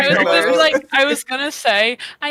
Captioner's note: laughter